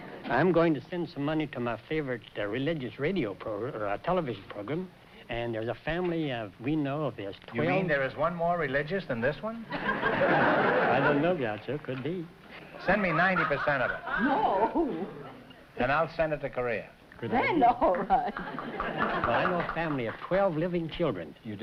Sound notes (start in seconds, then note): 9.6 audience laughter; 12.8 laughing